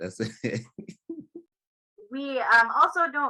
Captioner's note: laughter